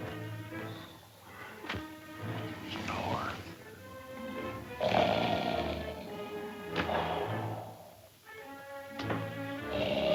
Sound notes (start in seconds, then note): 4.7 loud snoring